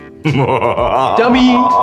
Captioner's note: muahahaha